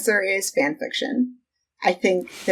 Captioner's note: laughs